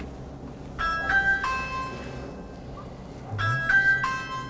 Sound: door bell ringing

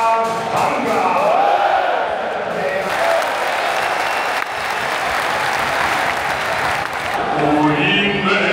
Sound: applause; opera Singer singing

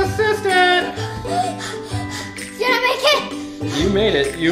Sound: panting

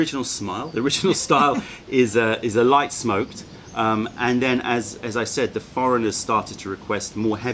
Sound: laughter

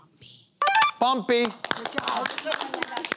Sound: she whispers

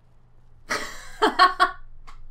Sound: laughs

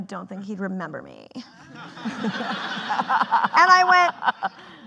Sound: laughing

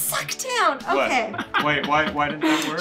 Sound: laughing

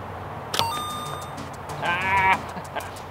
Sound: coin sound effect

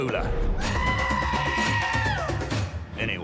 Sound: howling

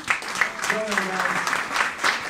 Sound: applauding

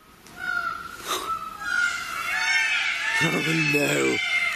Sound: peacocks squawking

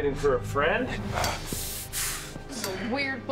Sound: grunting

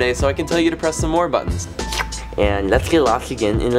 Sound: slurps

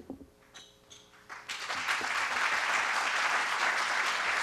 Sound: applause

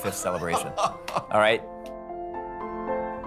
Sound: laughing

